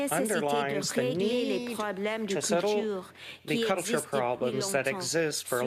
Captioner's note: speaking French